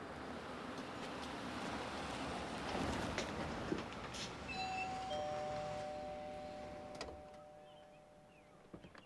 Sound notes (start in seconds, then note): 4.5 doorbell rings